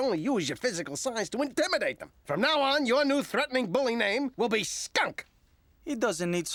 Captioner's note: none